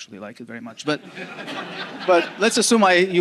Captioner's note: audience laughing